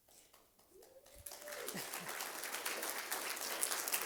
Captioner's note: applause